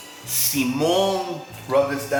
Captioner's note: speaking in spanish